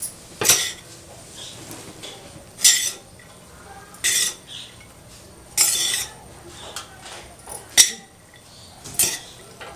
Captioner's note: satisfying mixing sounds of egg fried rice